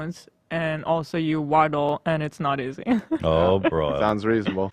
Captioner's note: laughs